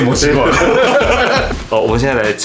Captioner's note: ~~gloating